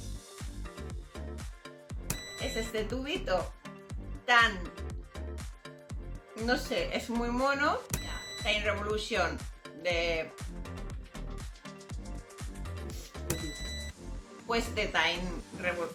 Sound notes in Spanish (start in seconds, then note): 2.1 ruido: piiiiii; 7.9 ruido: piiiiii; 13.0 risa; 13.2 ruido: piiiiii